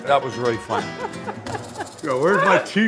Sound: laughs

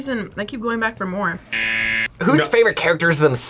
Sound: buzzer rings

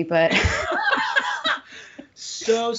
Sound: both laughing

